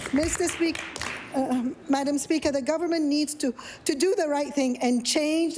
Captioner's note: some Applause